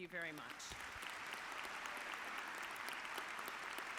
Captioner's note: audience clapping